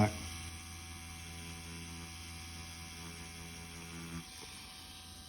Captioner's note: machine whirring